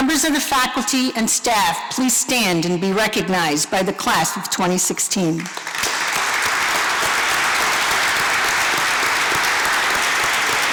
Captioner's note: applause